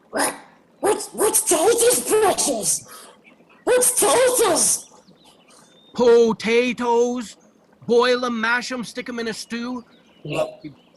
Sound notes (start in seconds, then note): none